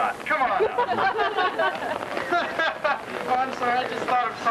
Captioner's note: laughter